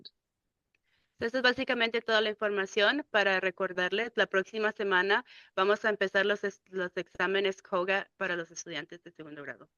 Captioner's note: speaking in Spanish